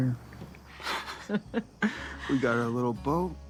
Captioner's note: Sandy chuckling